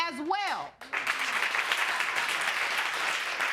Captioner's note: audience applauding